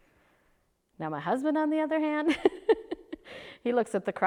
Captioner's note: laughs